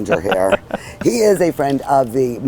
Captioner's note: laughing